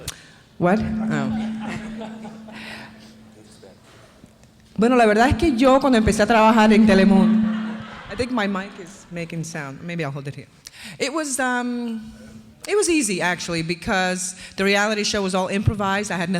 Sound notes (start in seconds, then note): 5.0 speaking foreign language